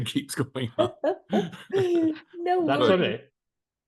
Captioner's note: laughs